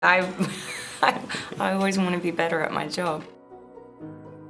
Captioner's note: laughs